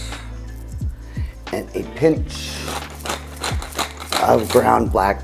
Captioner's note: pepper grounding